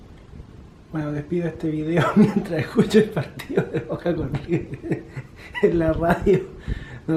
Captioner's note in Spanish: risas